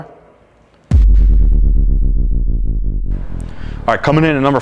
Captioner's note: descending tone